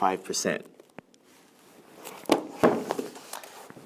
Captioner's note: closing book